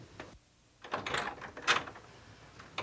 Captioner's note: door opening